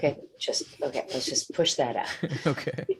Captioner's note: chuckling